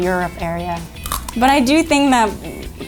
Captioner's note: crunch